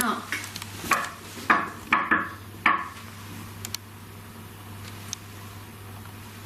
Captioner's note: knocking on table